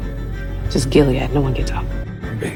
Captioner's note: voiceover